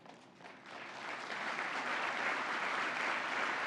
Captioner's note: applause